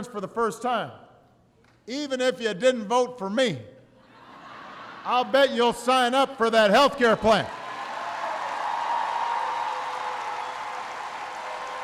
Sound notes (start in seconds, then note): 4.0 laughter; 7.4 applause